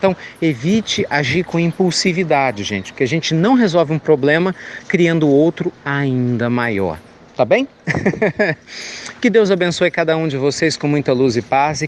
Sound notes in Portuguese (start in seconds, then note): 7.8 Risos